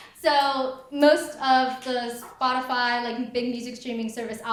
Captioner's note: none